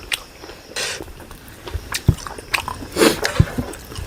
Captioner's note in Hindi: नाक से की जाने वाली आवाज़